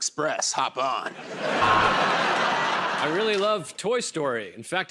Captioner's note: laughter and applause